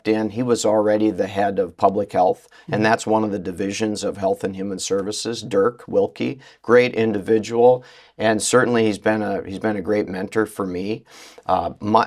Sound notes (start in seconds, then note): none